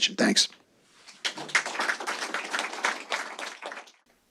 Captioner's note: applause